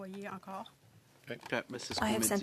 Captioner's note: speaking French